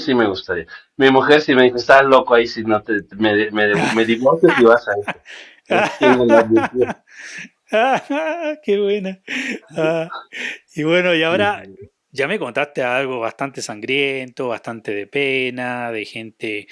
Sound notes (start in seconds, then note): 2.3 laughs